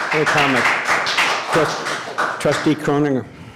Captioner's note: applause